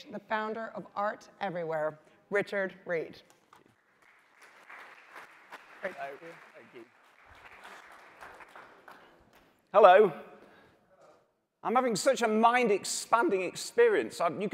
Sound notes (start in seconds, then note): 3.5 applause